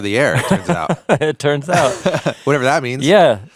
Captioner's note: continues laughing; laughing